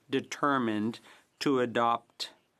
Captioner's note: speaking French